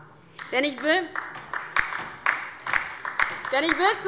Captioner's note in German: Beifall bei der LINKEN